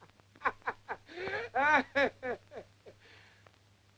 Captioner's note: laughs